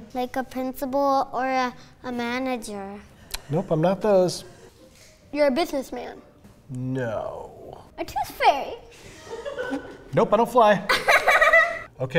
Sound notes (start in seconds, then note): 9.0 laughter; 9.0 laughs